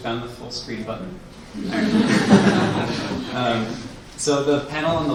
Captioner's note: laughing